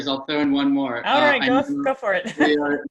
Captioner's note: laugh